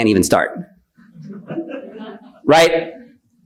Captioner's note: attendees laughing